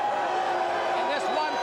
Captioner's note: crowd cheering